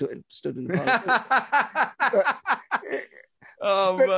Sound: laughing

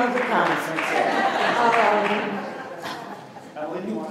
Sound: laughter

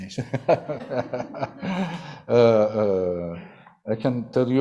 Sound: laughter

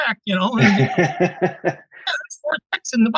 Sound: laughing

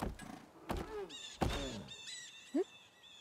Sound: birds screeching

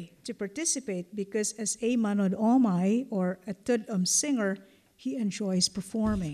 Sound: non-english

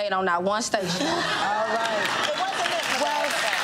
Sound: audience laughs and claps

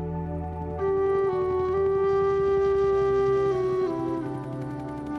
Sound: soft somber music; helicopter blades whirring

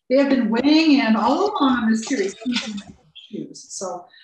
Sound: murmurs

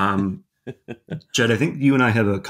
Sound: laughing

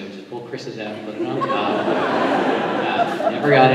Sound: laughter

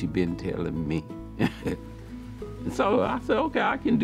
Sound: chuckles

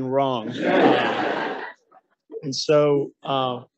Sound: audience laughing

